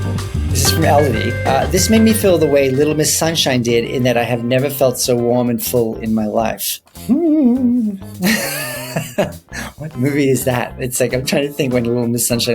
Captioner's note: ghost noises